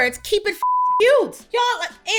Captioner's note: beep